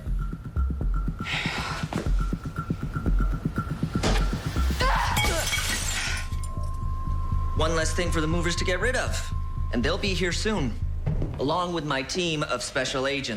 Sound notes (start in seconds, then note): 1.2 sighs; 5.0 glass shattering